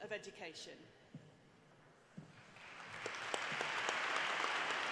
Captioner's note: applause